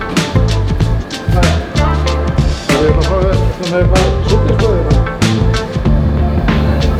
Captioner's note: speaking in Icelandic